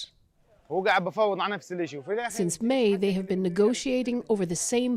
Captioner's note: speaking alternate language